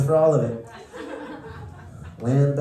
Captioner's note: laughter